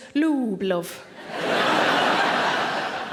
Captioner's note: audience laughing